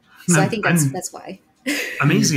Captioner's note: chuckles